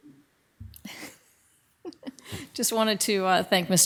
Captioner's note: laughs